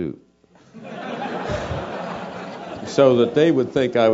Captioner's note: laugh